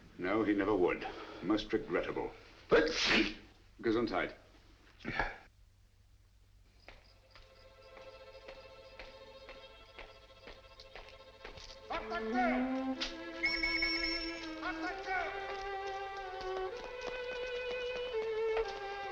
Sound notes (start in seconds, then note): 2.8 sneezes; 11.8 shouting and police whistle blowing